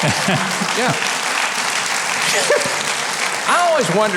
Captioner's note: audience applauds